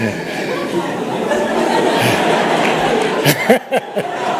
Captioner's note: laughing